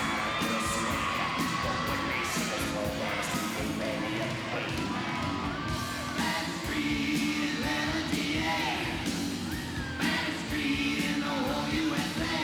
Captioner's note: crowd cheering